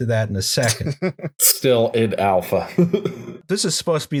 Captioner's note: laughter